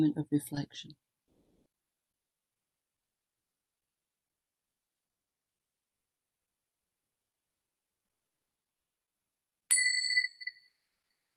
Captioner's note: bells ringing